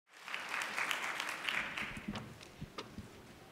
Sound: audience applauding

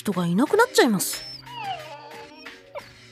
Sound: whine

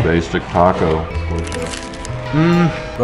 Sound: taco shell crunches

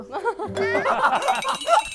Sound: laughing until he's out of frame

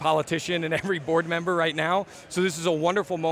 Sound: chuckles

